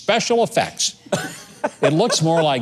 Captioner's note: laughs